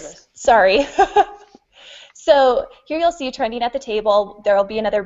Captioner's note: laughs